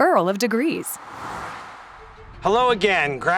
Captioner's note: air whooshes